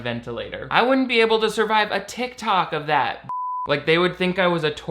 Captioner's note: beep